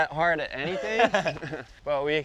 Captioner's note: laughs